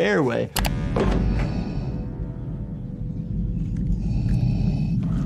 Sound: slow mechanized breathing

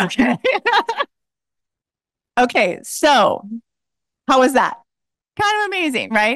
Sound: laughs

